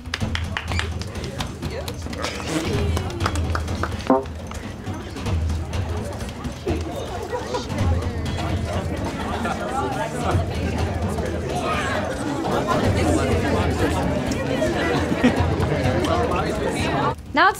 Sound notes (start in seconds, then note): 0.1 a few people clapping; 2.7 crowd chattering; 13.0 crowd chattering continues